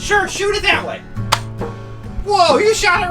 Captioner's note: click